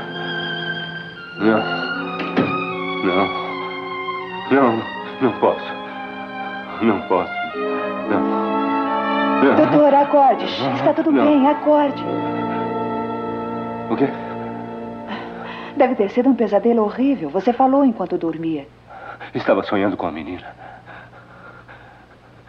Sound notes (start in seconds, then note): 13.5 chuckles